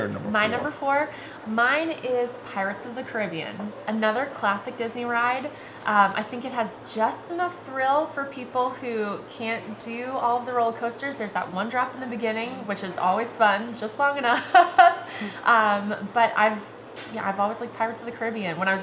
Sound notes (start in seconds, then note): 14.3 laughs